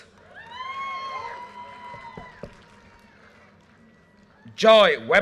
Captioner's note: audience cheers and applause